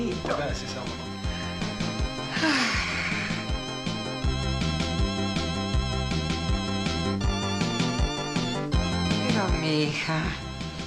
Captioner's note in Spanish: Suspiro